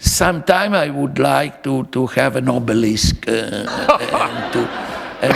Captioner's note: laughter